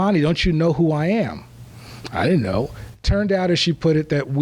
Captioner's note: none